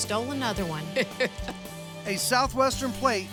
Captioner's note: chuckling